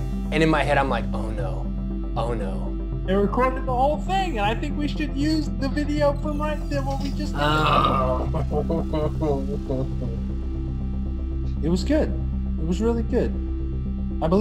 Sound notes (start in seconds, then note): 10.1 groans